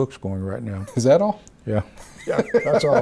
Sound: laughs

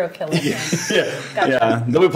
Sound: all laughing

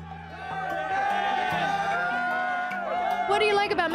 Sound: crowd cheering and shouting

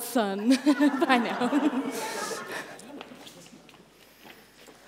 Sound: guests laugh as they exit

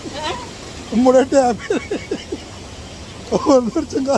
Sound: laugh

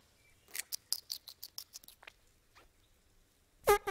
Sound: munching

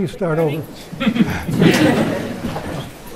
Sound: laughter

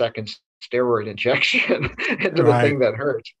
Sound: laughs

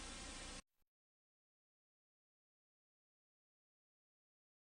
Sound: silence

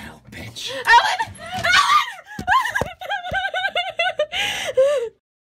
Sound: screaming; sobbing

